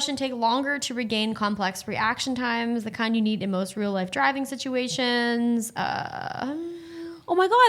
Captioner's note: none